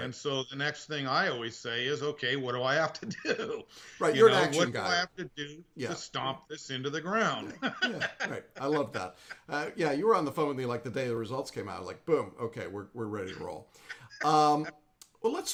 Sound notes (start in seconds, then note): 7.4 laughing